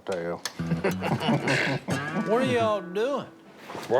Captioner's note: men laugh